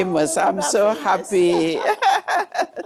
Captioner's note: laughs